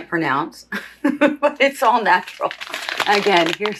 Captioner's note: laughs